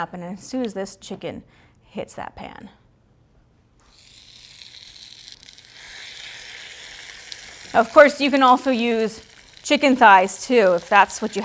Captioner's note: sizzling